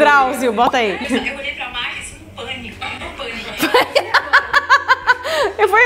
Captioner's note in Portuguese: risos